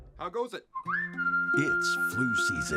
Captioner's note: whistle